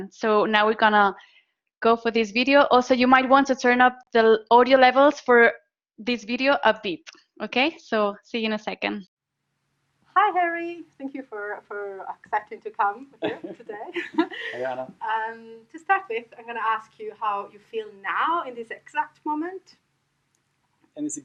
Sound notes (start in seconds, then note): 13.1 laughing